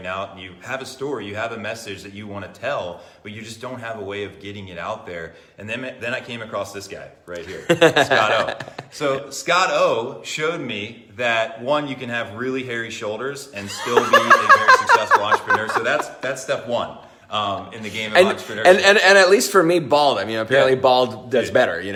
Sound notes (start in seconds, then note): 7.4 laughs; 15.8 laughs